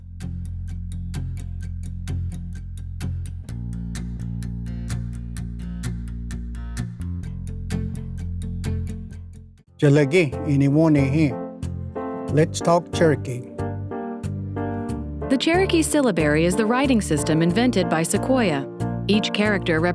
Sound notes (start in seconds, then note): 0.1 show theme music plays; 10.3 language segment music begins; 12.6 speaks in Cherokee